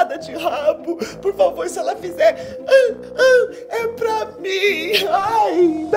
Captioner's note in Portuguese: imita latido